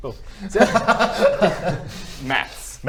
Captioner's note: relieved laugh